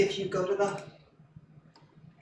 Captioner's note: none